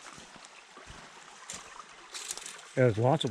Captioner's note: water burbling